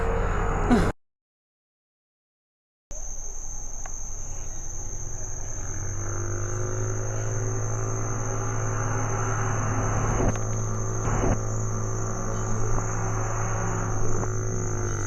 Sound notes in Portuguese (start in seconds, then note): 1.0 Silêncio